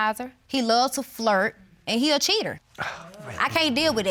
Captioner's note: scoffs